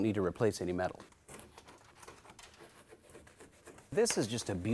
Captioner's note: scraping